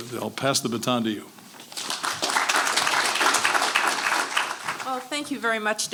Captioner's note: applause